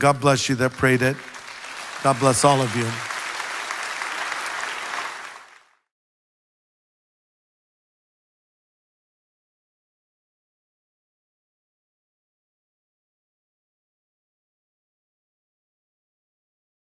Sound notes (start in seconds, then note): 3.8 congregation applauds